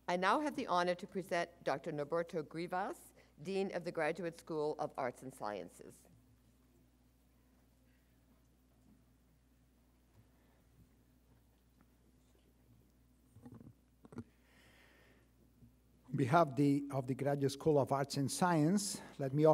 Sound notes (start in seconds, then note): none